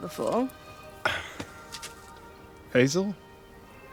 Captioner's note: Nikolai chuckles